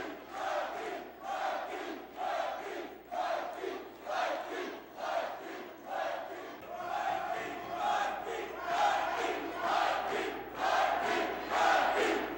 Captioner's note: crowd cheering